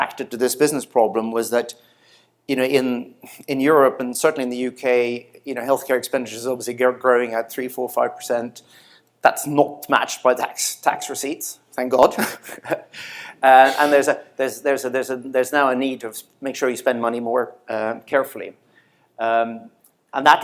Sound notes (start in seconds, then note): 12.2 snicker